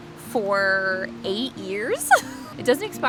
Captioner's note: laughs